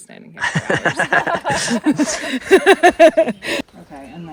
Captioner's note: everyone laughs